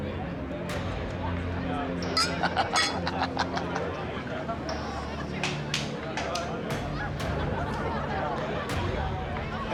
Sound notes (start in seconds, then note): 2.1 glasses clink; 2.2 men chuckle